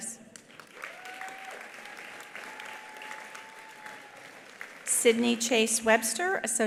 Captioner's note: attendees applauding; attendees cheering